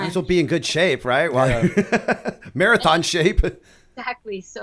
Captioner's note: chuckle